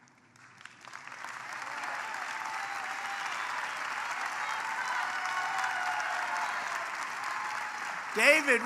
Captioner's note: applause